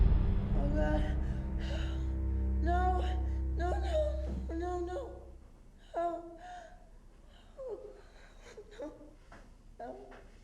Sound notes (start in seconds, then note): 5.7 Jane whimpering